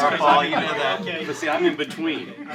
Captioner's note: laughter